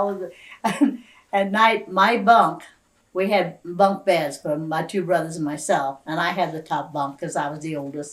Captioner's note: laughs